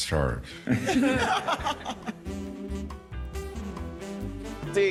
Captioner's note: panel laughing